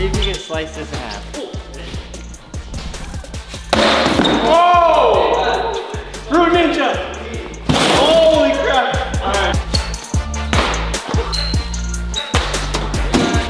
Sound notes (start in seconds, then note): 3.5 box thudding; 4.5 exclaiming; 10.5 boxes thudding